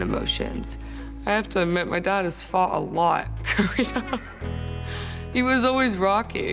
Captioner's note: laughing